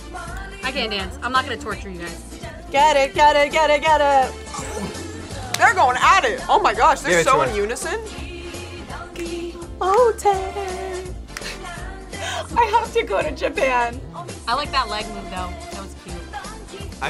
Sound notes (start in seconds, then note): 11.7 laughs